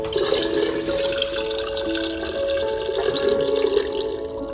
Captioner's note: water pours